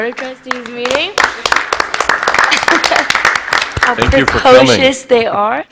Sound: applause

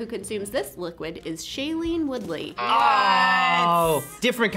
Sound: buzzer rings

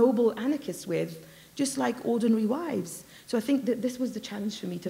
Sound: none

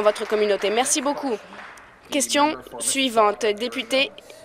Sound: applause

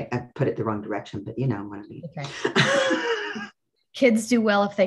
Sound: laughs

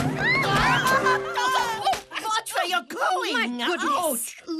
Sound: all screaming

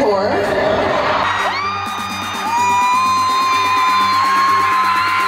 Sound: crowd cheering loud

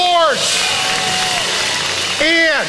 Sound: congregation applauding

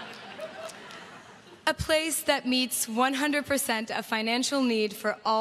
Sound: laughter

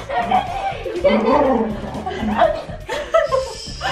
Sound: Logan growls; giggling

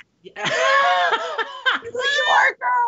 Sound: Brennan laughs

